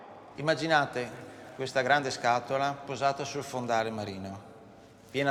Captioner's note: speaking in foreign language